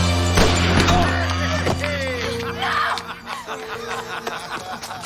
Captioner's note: Harry laughing